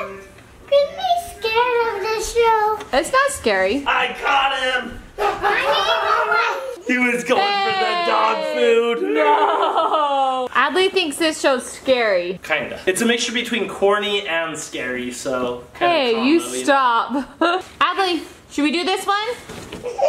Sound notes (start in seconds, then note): 5.1 laughs